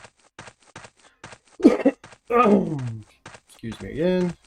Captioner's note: coughing